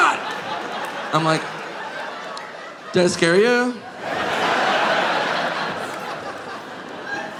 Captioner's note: audience laughing